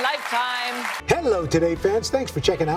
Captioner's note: applause